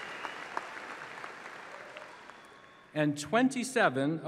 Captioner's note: applause